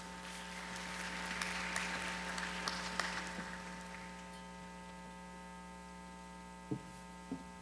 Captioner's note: applause